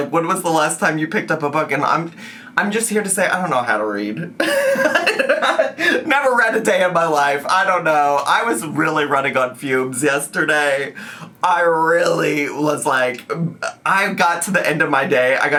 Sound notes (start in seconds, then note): 4.4 laughs